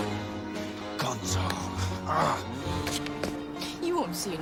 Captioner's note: growls